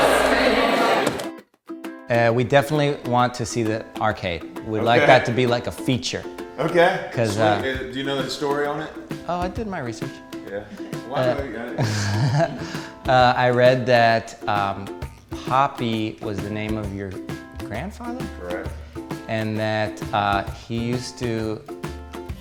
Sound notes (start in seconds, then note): 10.5 laughs